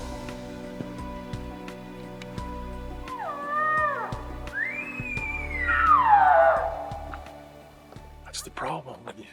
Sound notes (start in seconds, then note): 4.5 elk lure sounding